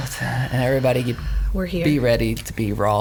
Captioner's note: exhales